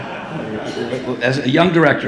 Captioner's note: audience laughing